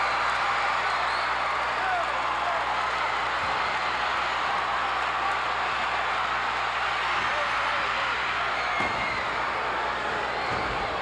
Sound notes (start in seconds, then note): 1.2 audience cheering continues; 8.1 floor banging